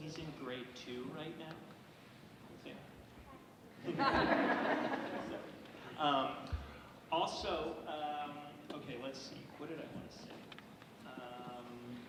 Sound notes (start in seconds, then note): 3.8 audience laughing